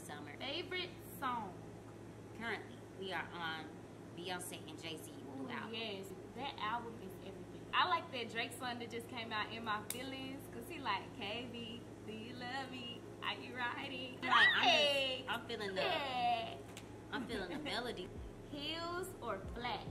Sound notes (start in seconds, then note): 14.4 screams